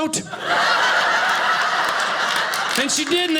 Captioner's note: audience laughing